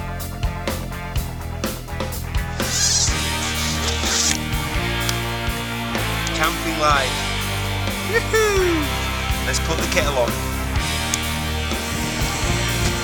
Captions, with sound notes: (unzipping) (claps) - Camping life. Woo hoo! Let's put the kettle on.